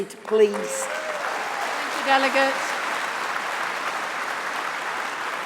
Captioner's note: applause